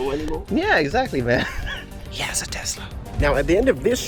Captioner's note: whispers